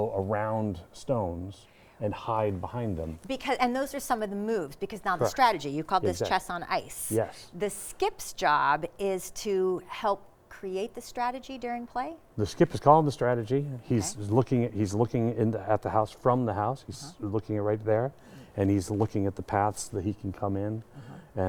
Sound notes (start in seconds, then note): none